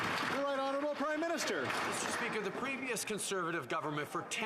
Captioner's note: some Applause